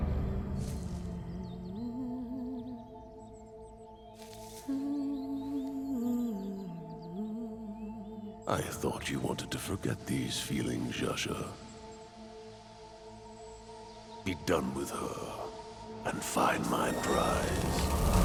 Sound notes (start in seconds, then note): 0.0 tense tones; 0.2 soft humming; 0.3 birds chirping; 4.4 soft humming; 4.6 birds chirping